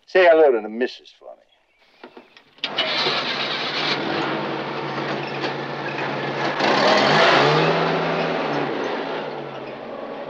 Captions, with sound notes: Say hello to the Misses for me. (engine cranking)